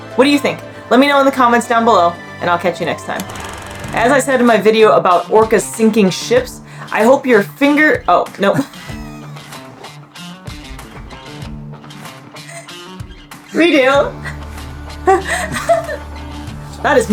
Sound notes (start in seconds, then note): 3.4 film rolling sound effect; 8.6 wheezes of laughter; 8.8 background music; 15.1 laughs